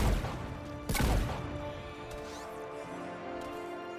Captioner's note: bang